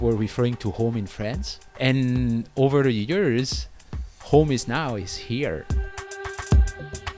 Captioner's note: voiceover